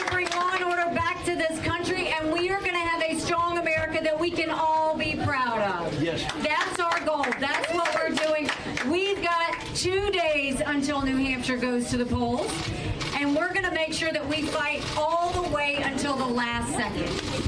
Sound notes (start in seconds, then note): 6.2 applause